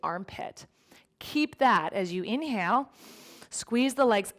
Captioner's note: inhales